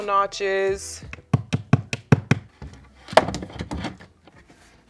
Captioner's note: hammer banging